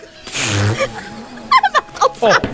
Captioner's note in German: Prustendes Lachen